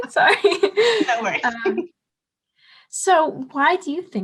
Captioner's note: laughs